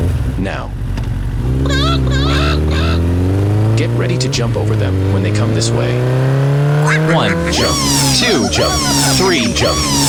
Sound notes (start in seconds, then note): 1.1 motorcycle accelerates, coming closer; 1.6 chicken sounds; 9.9 chickens laugh